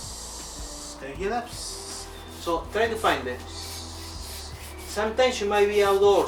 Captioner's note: hissing noise